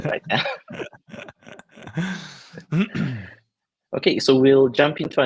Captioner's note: both laughing